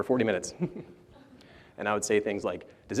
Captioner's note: laughter